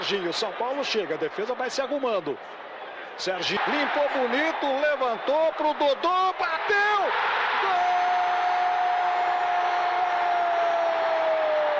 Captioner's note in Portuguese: aplausos